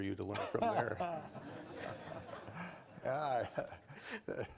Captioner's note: laughter